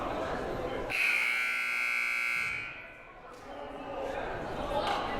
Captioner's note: buzzer blaring; crowd murmuring